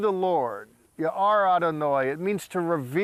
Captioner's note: speaking in Hebrew